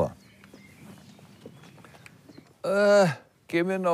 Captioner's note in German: Vogelgezwitscher